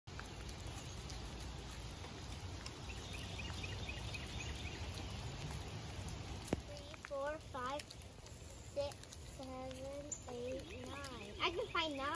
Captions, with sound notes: (lightly raining, birds chirping) 4, 5, 6, 7, 8, 9..I can find 9!